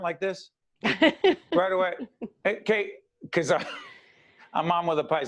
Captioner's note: laughing